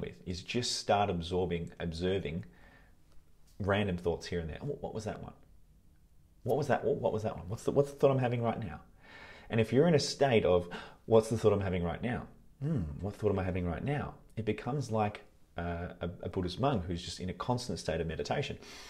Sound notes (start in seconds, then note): 12.6 gasps